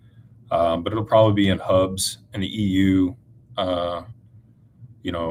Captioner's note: none